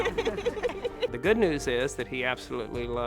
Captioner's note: laughs